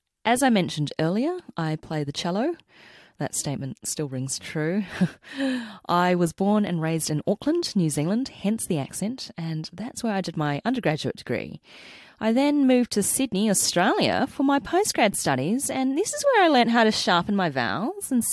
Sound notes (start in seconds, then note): 12.7 mock aussie accent